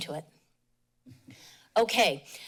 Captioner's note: pause